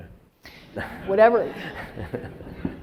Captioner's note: laughing